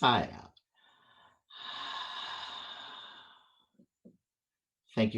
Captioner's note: exhale